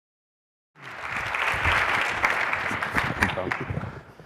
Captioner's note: applause